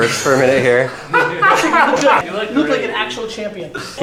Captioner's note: laughing